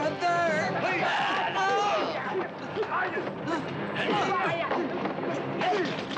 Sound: men grunting; yelling

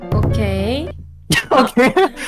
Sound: laughing

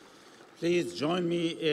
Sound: audience applauding; crowd cheering

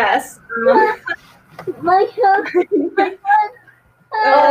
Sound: both laughing

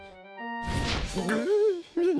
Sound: gasps

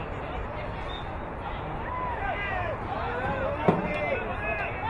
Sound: whistle blowing

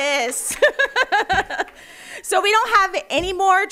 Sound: laughing

